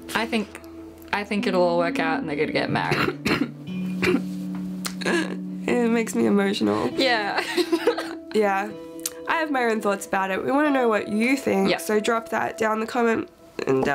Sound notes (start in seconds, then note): 2.8 Ingrid coughs; 7.3 laughing